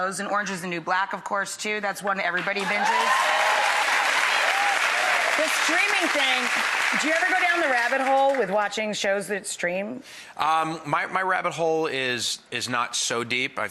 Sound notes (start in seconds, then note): 2.5 audience applauds